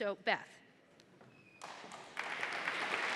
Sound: applause

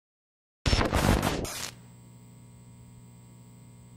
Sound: static hissing

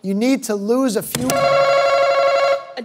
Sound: answer button rings

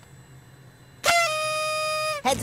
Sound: blares

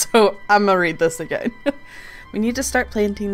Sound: laughs

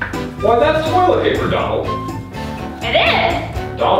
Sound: voiceover

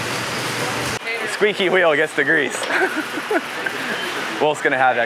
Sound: laughs

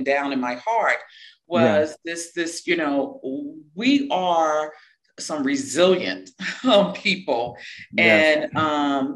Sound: laugh

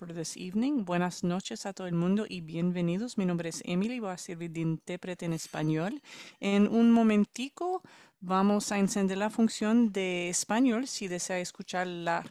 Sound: speaking spanish

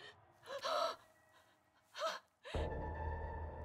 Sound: woman gasps; eerie music

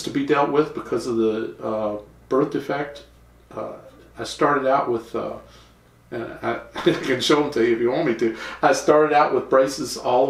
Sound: laughter

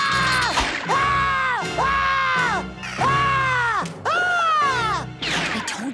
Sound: screaming

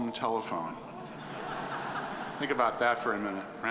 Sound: audience laughing

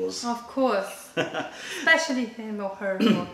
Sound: laughter

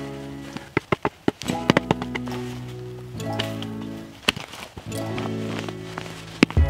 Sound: upbeat music; shovel clinking

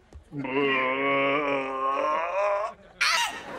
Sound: struggles; voice cracks

